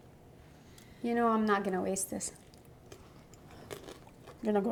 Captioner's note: crunches